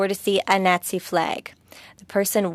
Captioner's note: speaking French